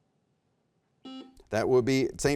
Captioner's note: buzzer beeps